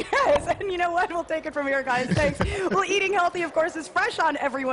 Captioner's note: laughter